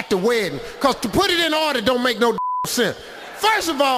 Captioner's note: beeping